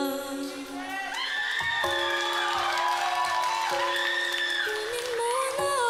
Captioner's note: audience cheering